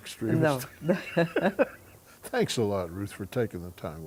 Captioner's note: laughs